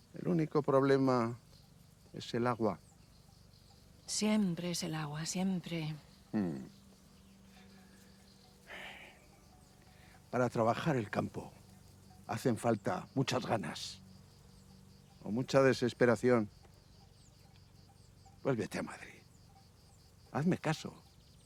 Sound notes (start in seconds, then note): 8.6 Cosme sighs